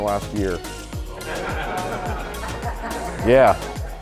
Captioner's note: audience laughing